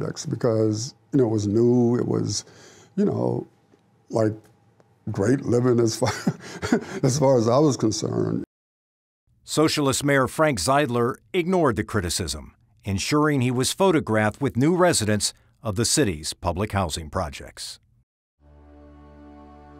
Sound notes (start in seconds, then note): 6.0 laughs